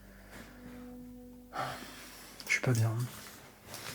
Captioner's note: sighs again